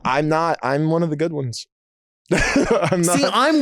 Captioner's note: laughing